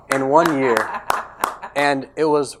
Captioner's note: applauds